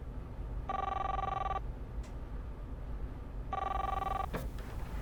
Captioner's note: cellphone ringing